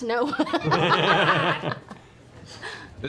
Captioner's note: laughter